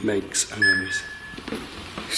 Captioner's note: beeping